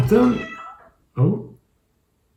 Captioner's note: cat meows